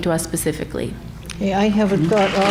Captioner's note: applause